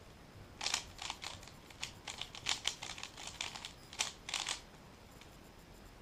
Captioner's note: cube noises